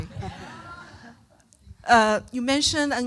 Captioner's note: audience laughing